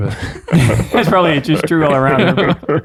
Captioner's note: friars laugh